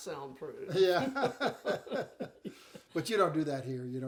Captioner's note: laughing